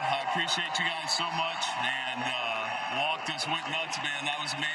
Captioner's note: cheering